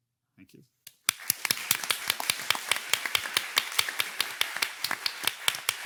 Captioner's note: participants clapping